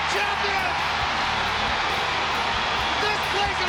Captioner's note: crowd cheering